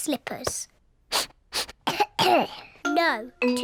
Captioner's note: sniffs and coughs